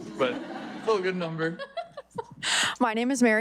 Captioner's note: audience laughing